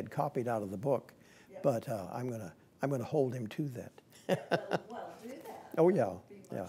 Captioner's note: laughing